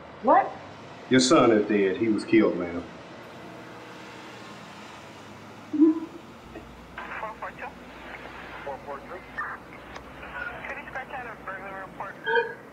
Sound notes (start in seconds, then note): 5.9 Doretha stutters